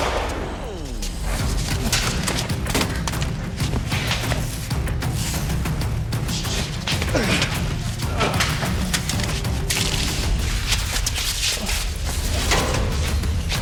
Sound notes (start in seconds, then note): 0.0 gun firing; 1.6 fighters scuffling; 1.6 suspenseful music continues